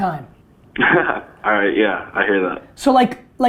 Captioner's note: laughs